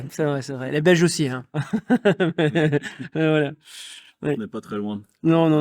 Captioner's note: laughs